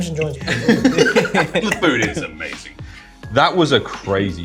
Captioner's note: laughter